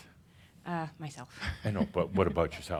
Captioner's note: she chuckles softly